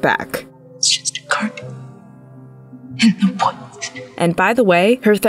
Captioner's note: Nell muttering